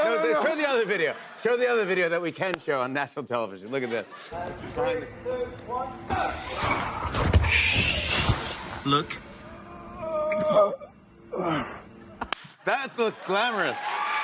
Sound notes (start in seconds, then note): 9.4 groans; 12.8 cheers and applause